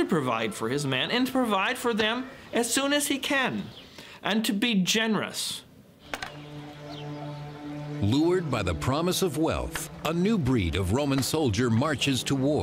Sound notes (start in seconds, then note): none